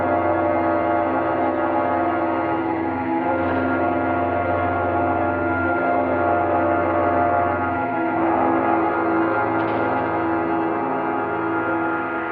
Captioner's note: bell